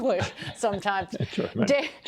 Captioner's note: laughter